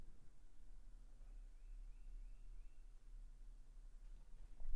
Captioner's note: bird chirping